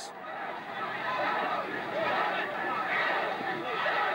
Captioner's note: chanting